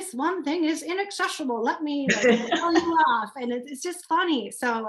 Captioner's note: laughter